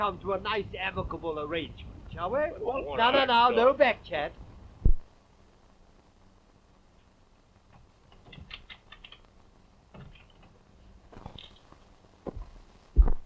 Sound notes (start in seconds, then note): 8.7 lock rattling